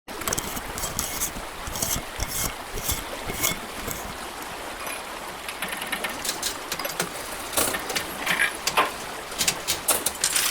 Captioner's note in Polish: szumiący strumień, mechaniczne dźwięki